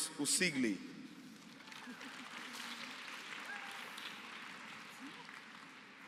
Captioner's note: applause